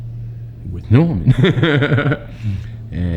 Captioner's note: laughs